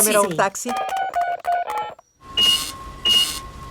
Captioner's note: dialing; cash register beeping